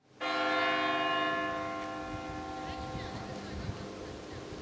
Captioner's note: bells chiming